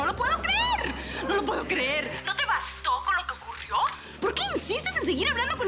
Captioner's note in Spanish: Murmullo de comentarios